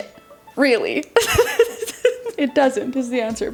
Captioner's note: laughs